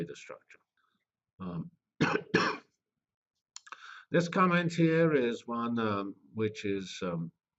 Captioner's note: cough